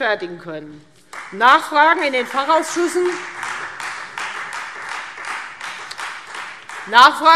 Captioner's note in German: Beifall Freie Demokraten